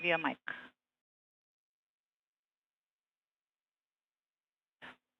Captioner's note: speaking foreign language